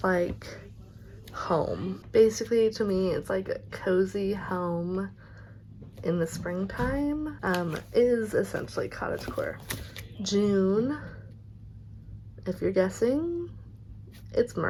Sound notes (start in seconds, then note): 8.3 roommates in the background